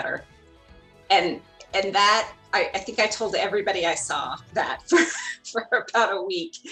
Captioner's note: chuckles